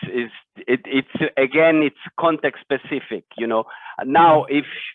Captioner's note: none